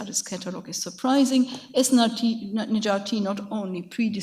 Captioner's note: speaks in a foreign language